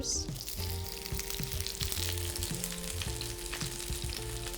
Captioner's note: pan sizzles